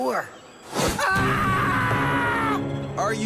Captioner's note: screams